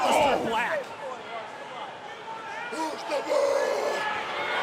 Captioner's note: crowd chatter